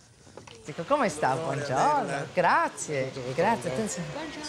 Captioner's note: speaks in Italian